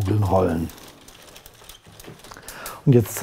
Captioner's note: quiet rattling